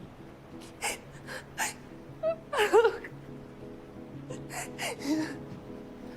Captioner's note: Serena starts crying in the background